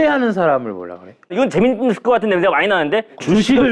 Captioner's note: feigning excitement